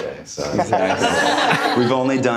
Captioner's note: audience laughter